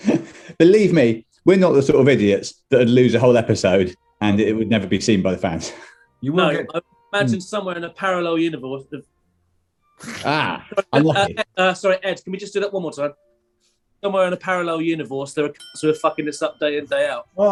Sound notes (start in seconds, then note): 0.0 laughing; 9.3 stammers; 15.5 ding!